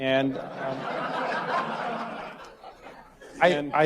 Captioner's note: audience laughter